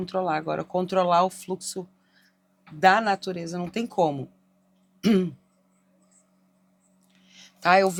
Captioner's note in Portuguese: limpando a garganta